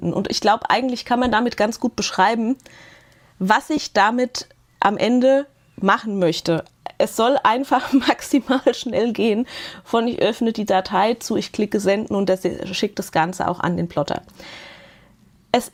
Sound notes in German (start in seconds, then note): 7.5 gelächter